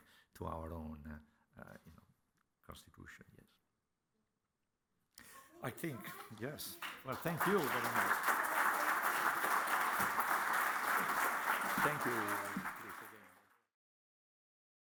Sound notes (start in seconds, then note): 8.4 applause